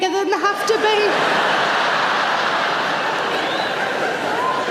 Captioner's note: audience laughs